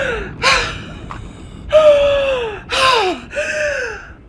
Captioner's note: Madame coughs; Madame gasping